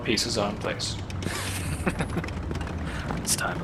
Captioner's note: minor chuckle